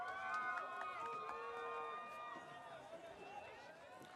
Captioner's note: audience cheering